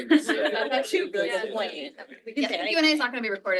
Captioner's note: people chattering